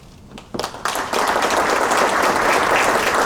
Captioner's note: applause